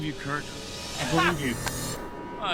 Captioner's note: trader laughs